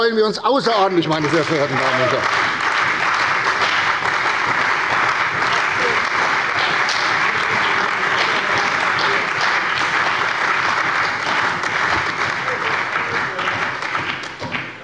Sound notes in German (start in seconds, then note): 2.6 Beifall bei der CDU und dem BÜNDNIS 90/DIE GRÜNEN